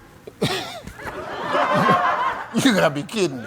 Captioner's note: chuckling; audience laughing